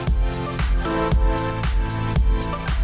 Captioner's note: speaking in French